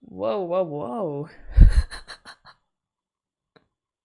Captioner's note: laughs